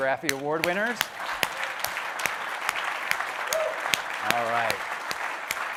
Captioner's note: audience applauding